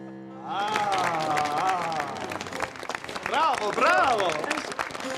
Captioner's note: <i> audience applauding</i>